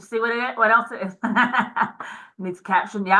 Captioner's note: laughs